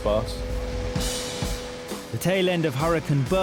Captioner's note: engine roaring